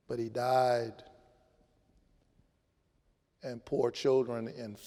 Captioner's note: none